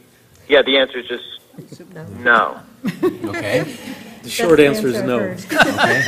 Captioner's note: laugh